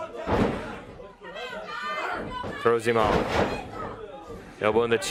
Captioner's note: crowd chatter